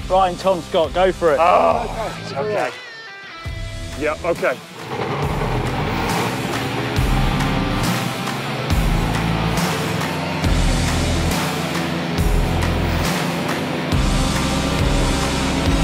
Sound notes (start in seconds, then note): 1.5 groans; 4.8 engine turns on; 9.0 engine accelerating